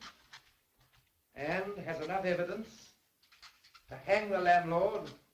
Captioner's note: pen scratching